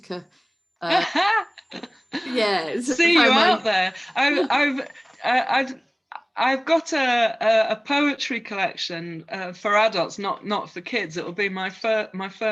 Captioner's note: laughs